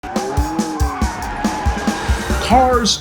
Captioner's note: car engine revving